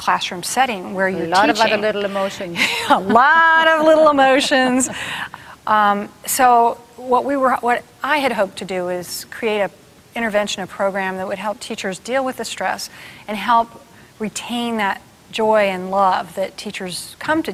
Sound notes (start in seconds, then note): 1.4 laughing